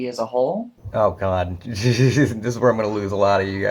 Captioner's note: laughs